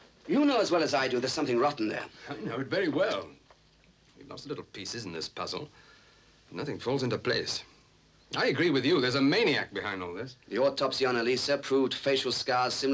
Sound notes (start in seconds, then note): none